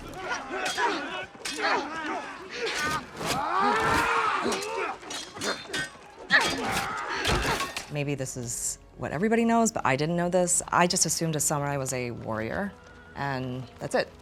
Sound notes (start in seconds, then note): 0.0 swords clashing; 3.4 battle cry